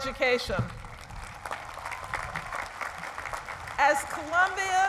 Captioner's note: applause